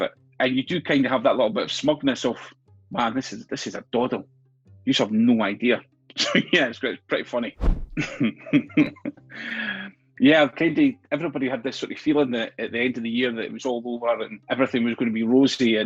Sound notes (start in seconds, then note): 7.7 laughs